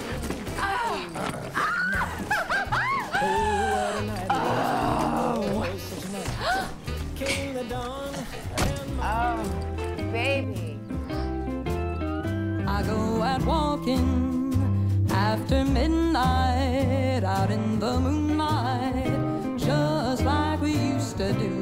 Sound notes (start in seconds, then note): 1.3 laughs; 6.2 gasps